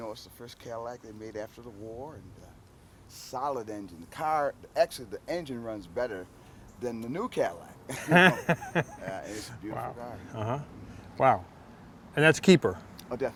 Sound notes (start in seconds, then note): 7.9 laughs